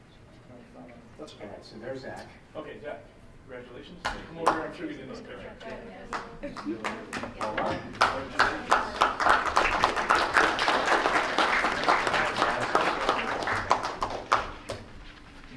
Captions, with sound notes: >>Let's pass. So there's Zack. >>Okay, Zack. Congratulations. Come over here, I'm sure they'll need a picture. (clapping) >>Alright. >>Congratulations. (clapping) >>Madison Kerber, there you go.